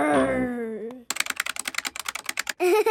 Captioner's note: keyboard clicking